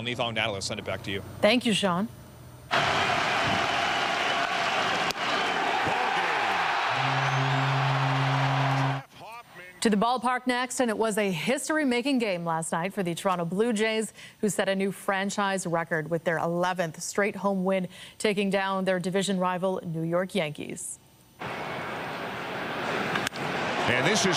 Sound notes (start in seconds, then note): 9.9 cheering